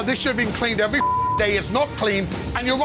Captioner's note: beep